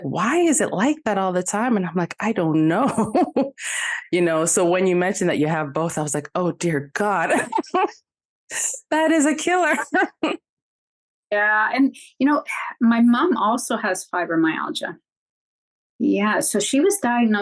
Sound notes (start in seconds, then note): 7.2 chuckle